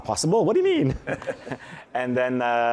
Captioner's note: chuckling